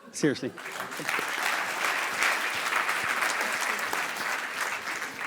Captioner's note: audience applause